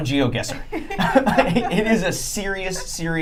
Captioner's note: laughing